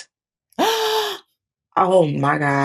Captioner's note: gasps